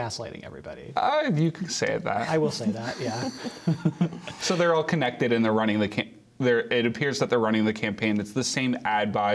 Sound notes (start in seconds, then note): 2.8 laughter